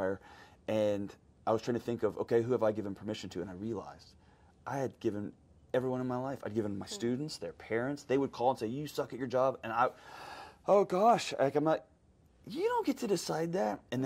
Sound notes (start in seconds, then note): none